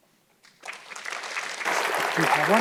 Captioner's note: audience clapping